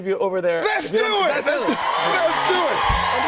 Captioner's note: cheers and applause